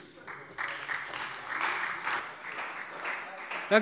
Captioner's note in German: Beifall bei der CDU und dem BÜNDNIS 90/DIE GRÜNEN